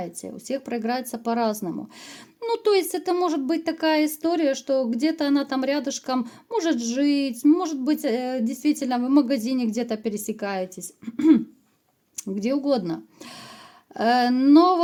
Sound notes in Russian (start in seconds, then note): 11.0 откашливается